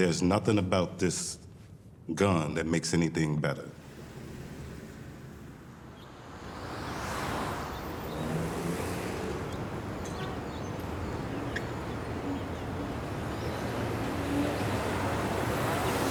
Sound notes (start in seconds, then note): 6.5 traffic bustling